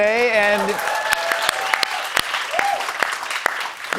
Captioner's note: cheers and applause